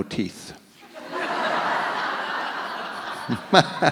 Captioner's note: audience laughs; laughing